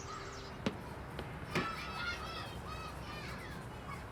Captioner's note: children laughing and shouting